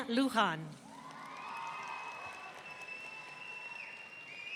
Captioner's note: audience cheering